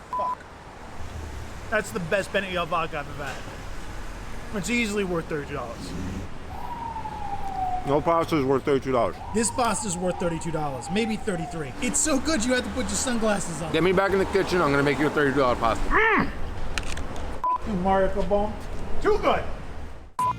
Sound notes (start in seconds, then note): 0.1 beep; 6.6 siren wailing; 15.8 grunts; 17.4 beep